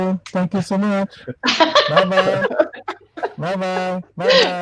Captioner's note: laughing